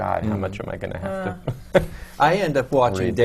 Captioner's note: laughs